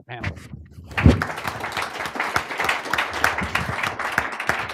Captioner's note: applause